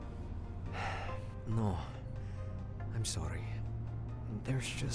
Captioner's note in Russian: вздох